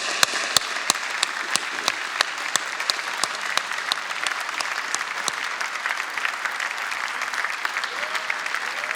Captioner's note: applause